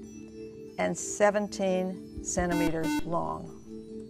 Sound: buzzer

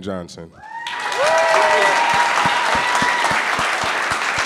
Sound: audience cheering

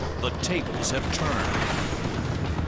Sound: gunshots

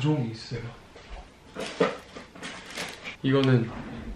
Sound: fumbling

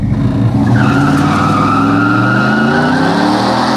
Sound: tires screech

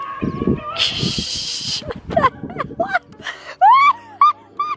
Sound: laughing

